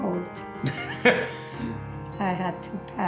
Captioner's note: laugh